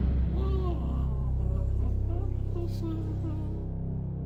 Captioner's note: scary music; doll humming